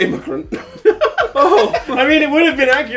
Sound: laughs

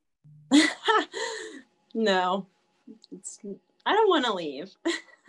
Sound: laughs

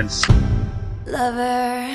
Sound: thump

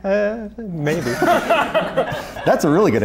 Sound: laughter

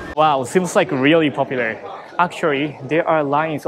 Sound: none

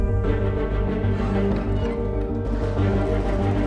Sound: intense Music; door Creak

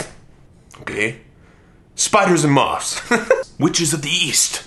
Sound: laughs

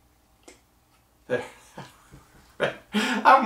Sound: laughing

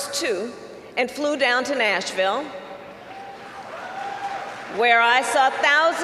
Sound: applause

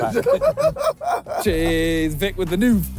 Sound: laughing

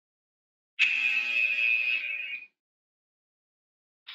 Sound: alarm blares

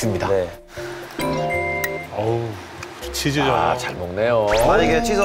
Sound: storm of inhalation

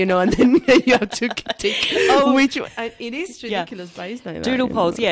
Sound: laughs

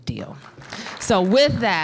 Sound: applause

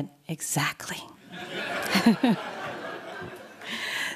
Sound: laughter

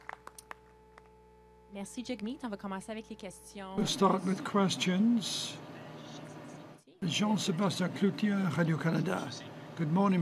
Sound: applause; speaking French

